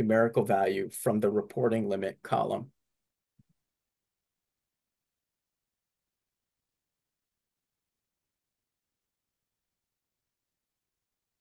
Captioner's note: silence